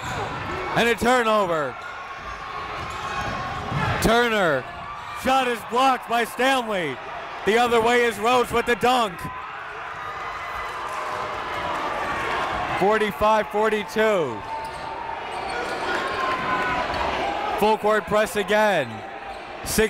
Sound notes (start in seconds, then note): 10.0 crowd cheering; 14.0 crowd talking